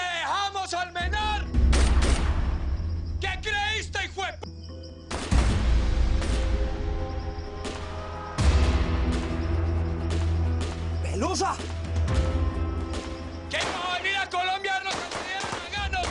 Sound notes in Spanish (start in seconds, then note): 3.2 Disparos; 5.1 Disparos